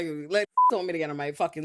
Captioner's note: beep